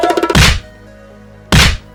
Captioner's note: drumroll; slap